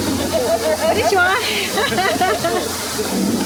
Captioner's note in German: Gelächter